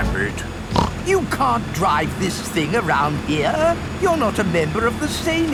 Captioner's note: snorts